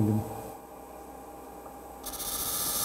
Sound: machine whirring, grinding noises

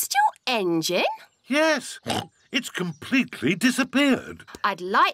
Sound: oinks

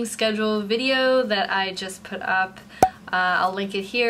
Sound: graphic pop

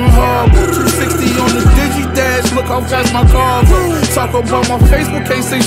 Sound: vroom

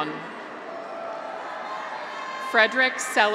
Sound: graduates cheer

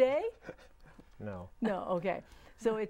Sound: laughing

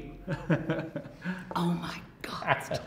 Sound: laughing

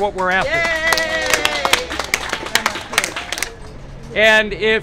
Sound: applause

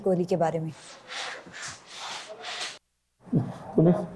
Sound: heavy breathing

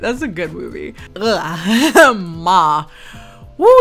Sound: groans

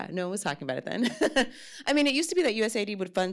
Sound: laughs

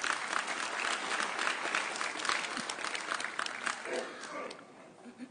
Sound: audience applauding

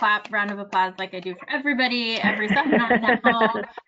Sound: laughs

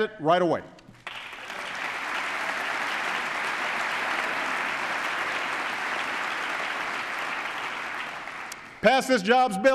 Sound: applause

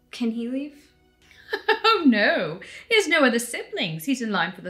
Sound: laughing

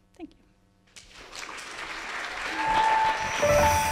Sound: applause

